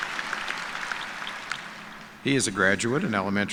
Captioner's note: cheers and applause